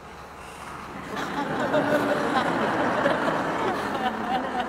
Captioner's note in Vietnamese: tiếng cười